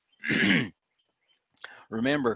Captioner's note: clears throat